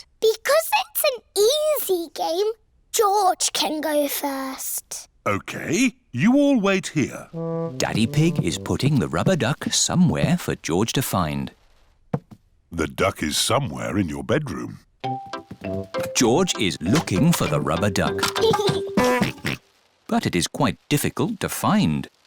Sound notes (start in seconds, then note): 17.9 giggles and oinks